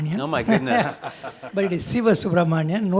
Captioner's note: laughing